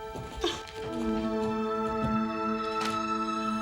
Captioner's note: Nora crying